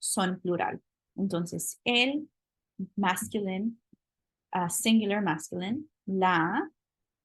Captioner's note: spanish